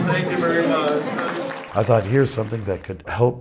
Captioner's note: audience claps